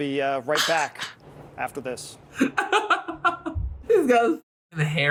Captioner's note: laughs